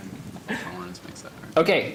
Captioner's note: laughter